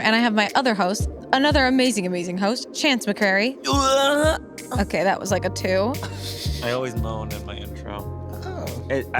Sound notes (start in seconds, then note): 3.7 grunts; 6.0 laughs